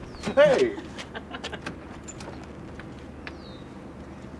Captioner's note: chuckles